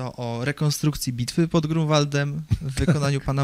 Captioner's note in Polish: śmiech